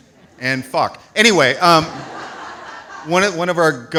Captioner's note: audience laughs